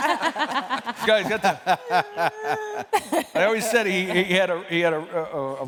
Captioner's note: laughter